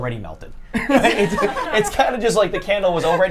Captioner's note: group laughs